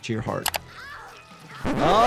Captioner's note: Jill wailing